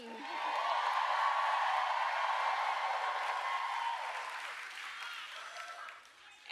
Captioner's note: applause